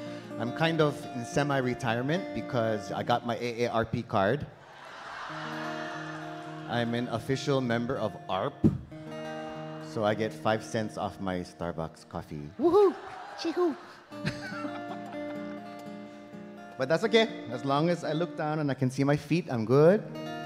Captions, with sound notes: I'm kind of in semi-retirement because I got my ARP card. [audience laughing] I'm an official member of ARP. So I get 5 cents off my Starbucks coffee. Woohoo. But that's okay. As long as I look down and I can see my feet, I'm good.